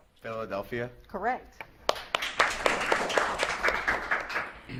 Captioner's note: audience claps